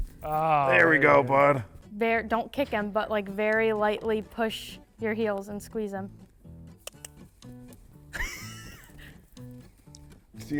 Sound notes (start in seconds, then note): 6.5 bright music; 6.8 item clicks; 8.1 instructor laughs